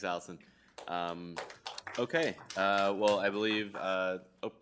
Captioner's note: applause